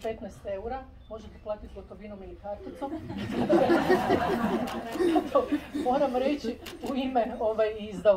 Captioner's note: laughter